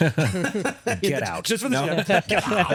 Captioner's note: both laughing